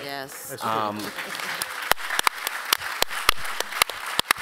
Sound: applause

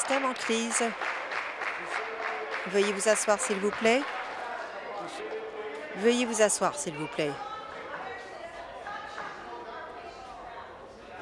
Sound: applause

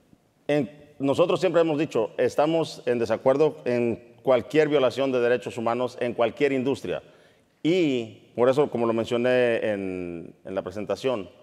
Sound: speaking in Spanish

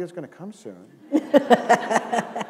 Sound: laughter

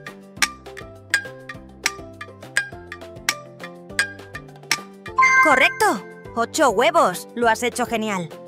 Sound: notification

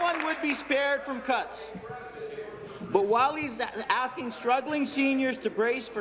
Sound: applause

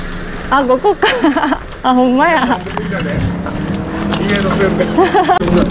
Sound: laughs

